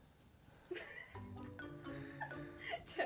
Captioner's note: producer laughs